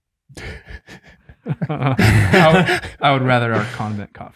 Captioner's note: group laughs